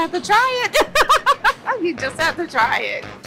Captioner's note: laughs